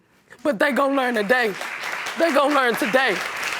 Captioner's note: audience applauding